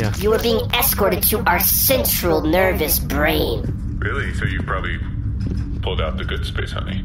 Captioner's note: excited